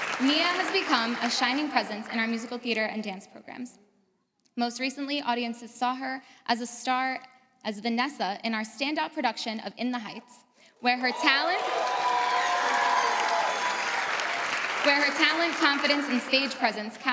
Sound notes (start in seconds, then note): 11.0 audience cheers